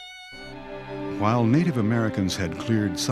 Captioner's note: voiceover